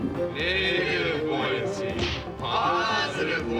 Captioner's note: <i> all chanting:</i>